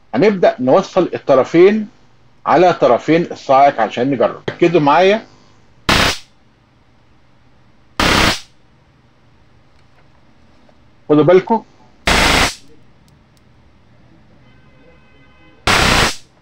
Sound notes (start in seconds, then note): 6.2 sound of a stun gun; 12.1 sound of a stun gun